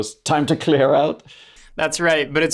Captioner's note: laughs